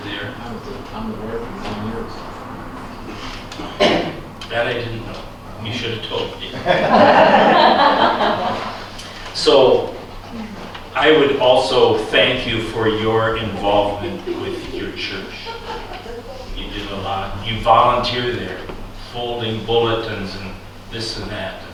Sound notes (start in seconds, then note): 6.5 laughter